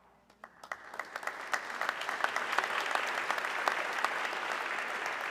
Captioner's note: audience clapping